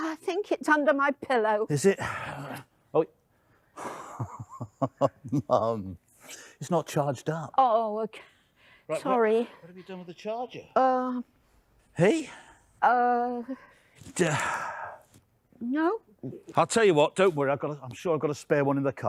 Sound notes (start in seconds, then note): 3.9 chuckling